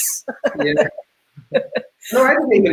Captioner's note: laughing